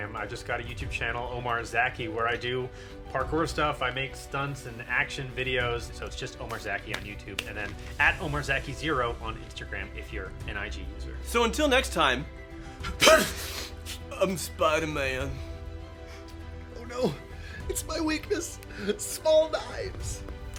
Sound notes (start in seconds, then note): 12.9 sneeze